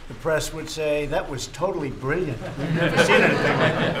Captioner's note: laughter